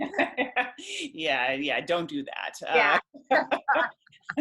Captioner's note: laughter